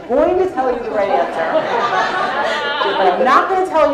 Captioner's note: laugh